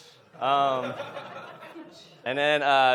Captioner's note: audience laughs